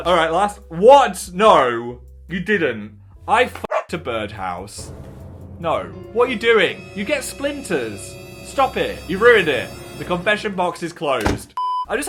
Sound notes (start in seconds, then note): 3.6 dog barks